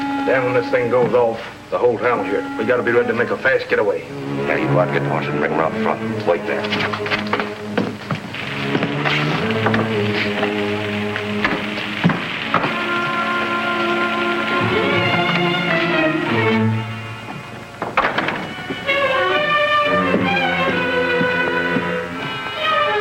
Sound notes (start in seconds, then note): 8.8 tense orchestral music; 15.6 door latch clicks; 17.7 door thuds; 19.2 tense orchestral music; 19.8 shoes thudding; 22.8 tense orchestral music